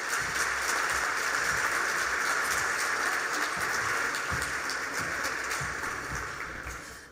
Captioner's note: applause